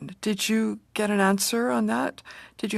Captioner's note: speaking in french